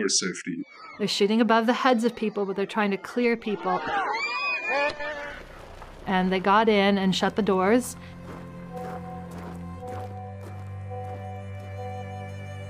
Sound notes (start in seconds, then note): 3.5 people screaming; 7.7 somber music